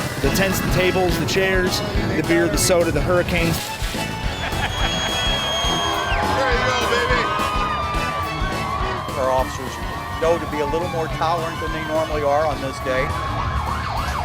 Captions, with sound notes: - The tents, the tables, the chairs, the beer, the soda, the hurricanes. (loud cheering) - Their officers know to be a little more tolerant than they normally are on this day.